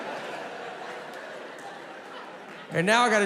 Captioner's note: audience laughing